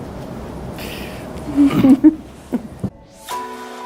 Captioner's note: laughing; synthesizer music chiming